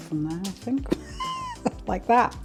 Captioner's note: splat